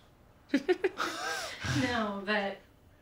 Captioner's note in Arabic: يضحك